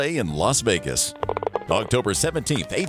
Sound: ball Clatters Into Hole

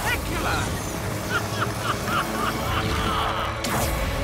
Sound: cackling

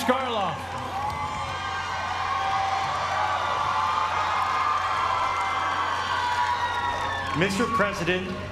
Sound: applause

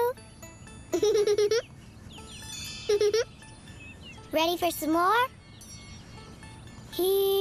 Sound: giggle

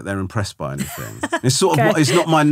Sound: laughing

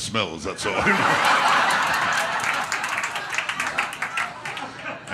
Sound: audience laughter

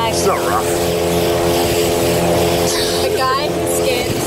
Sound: laughs

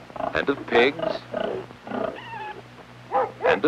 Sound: oinking

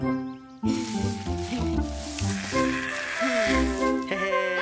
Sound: sound of brooms

